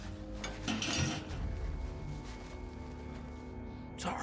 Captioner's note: clanking sound; solomon whispers